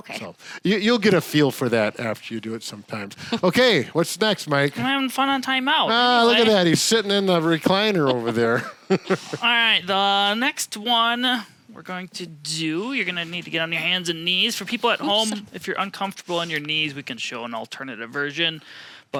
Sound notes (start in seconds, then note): 7.6 chuckles